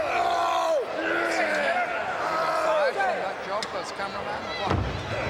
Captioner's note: wrestlers grunting